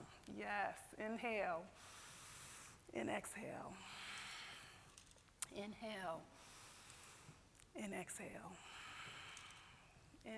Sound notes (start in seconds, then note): none